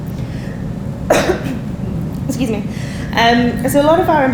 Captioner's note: coughing